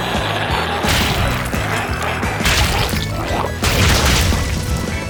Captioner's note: energetic music continues; goo splatters